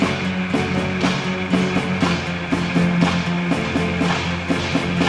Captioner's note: train rattling on tracks